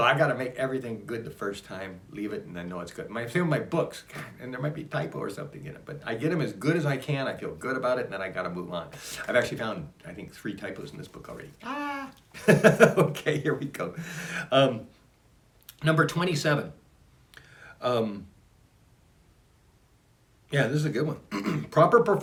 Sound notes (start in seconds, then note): 11.6 laughs